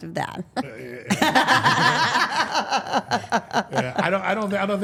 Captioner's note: all laughing